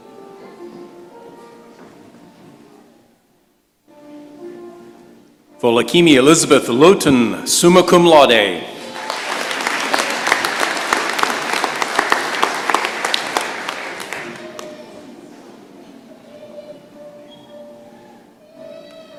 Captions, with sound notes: Folakemi Elizabeth Lotun, summa cum laude. [applause]